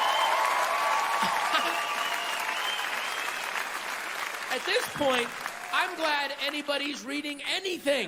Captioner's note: applause